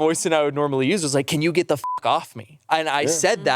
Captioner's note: beep